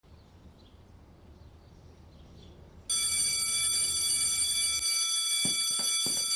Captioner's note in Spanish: Suena el timbre del colegio